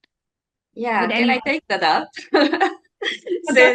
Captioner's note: chuckles